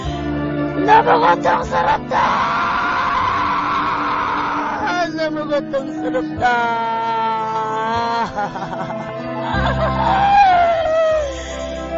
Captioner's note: paradoxical laughter